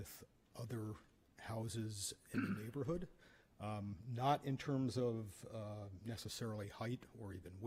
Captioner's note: clears throat